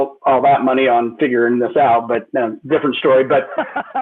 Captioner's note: laughter